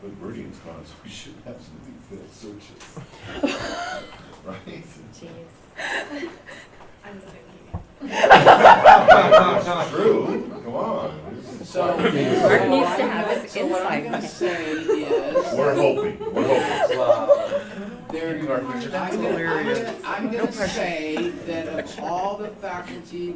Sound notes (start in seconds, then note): 3.1 laughter; 8.0 laughter